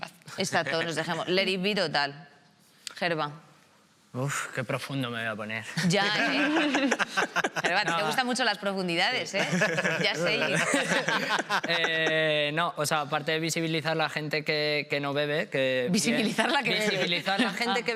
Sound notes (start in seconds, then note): 5.9 laughs